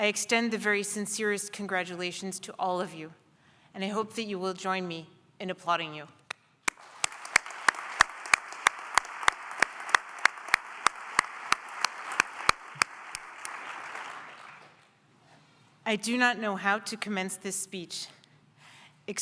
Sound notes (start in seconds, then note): 6.6 applause